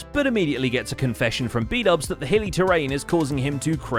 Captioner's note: none